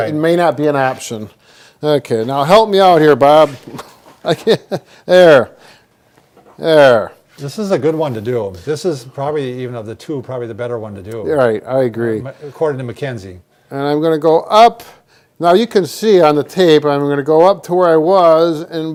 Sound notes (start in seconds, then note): 3.5 chuckles